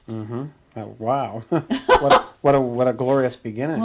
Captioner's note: laughs